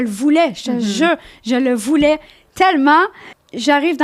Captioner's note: in french